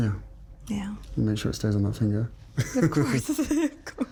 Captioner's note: laughing